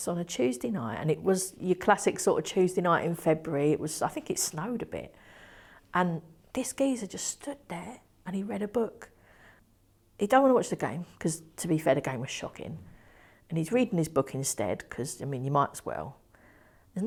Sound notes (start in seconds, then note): none